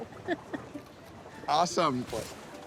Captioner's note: both chuckling